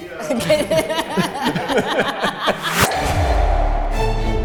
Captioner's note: everyone laughs